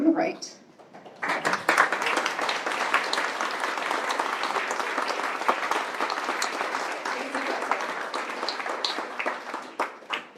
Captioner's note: applause